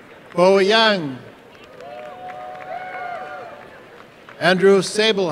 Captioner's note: applause and cheering